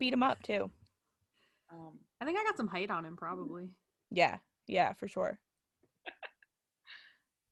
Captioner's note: laughs